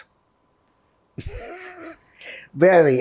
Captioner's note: laughing